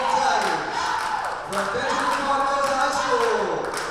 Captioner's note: athletes shouting